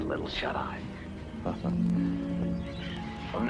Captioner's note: chuckle